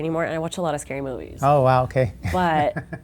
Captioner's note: laughter